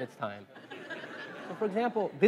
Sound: laugh

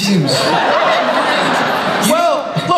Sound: audience laughs

